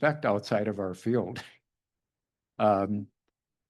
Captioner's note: laughs